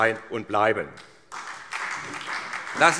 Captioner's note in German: Beifall SPD